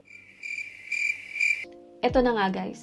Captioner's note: cricket Sound